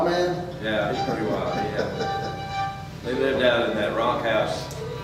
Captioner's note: chuckles